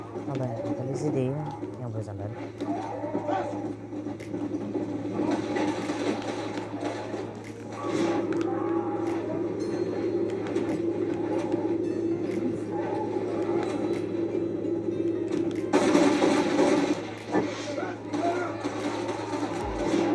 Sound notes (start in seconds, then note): 2.6 screams of the zombies; 7.1 sounds of composure and locking targets